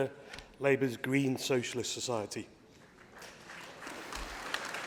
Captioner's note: applause